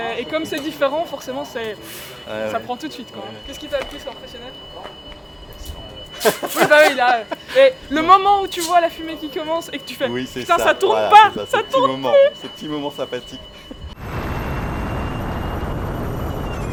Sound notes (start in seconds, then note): 6.1 laughter; 13.9 electric motor sound